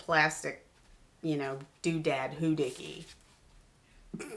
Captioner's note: chuckles